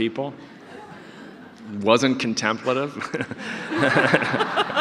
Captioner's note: audience laughter